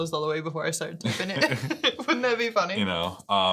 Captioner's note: laughing